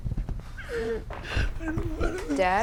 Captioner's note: doug crying